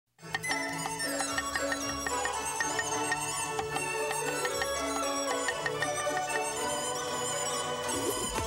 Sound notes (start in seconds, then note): 0.2 joyful music; 0.5 chopping